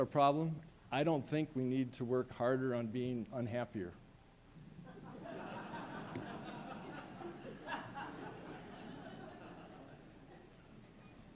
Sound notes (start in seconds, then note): 9.7 laughter